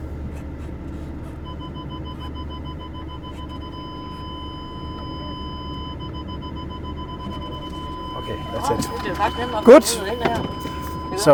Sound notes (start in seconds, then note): 1.4 car Sensor Beeping